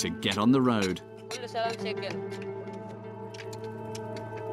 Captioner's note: speaking in foreign; somber music